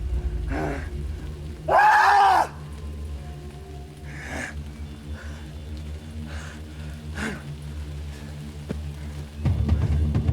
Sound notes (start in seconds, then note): 1.7 Gunnar screaming; 4.0 dramatic music